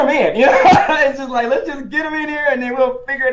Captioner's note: laughs